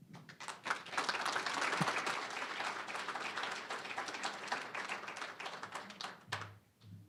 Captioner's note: applause